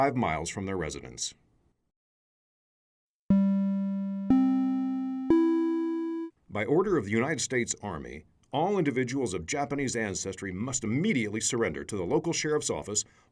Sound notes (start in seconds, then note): 3.3 audio Alert